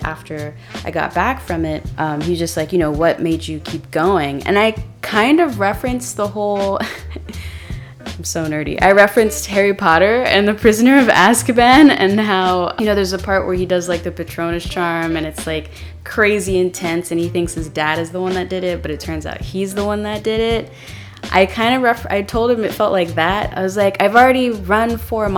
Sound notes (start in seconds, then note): 6.8 laugh